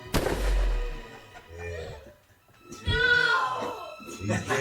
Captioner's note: bang!; laughter